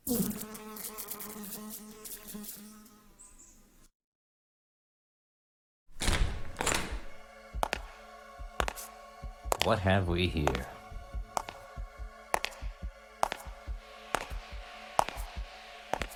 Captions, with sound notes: (suspenseful music) (footsteps clicking) What have we here? (suspenseful music) (footsteps clicking)